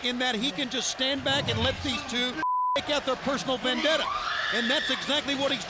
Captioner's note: beep